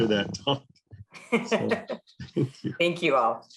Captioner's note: laughter